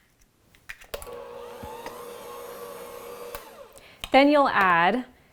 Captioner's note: mixer blending